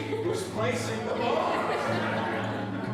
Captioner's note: laughter